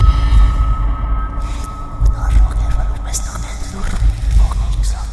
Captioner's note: ghostly voices